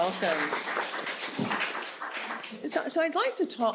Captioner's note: audience applauding